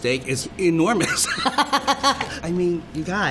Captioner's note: laughter